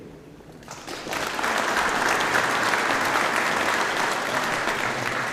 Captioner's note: audience applauding